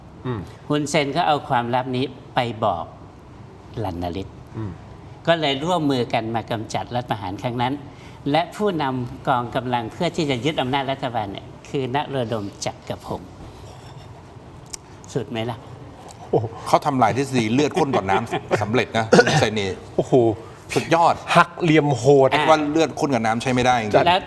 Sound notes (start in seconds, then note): 17.5 laughter